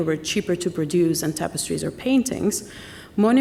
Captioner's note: none